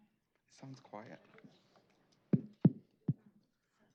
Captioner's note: indistinct chatter